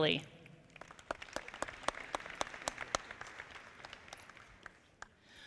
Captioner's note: audience clapping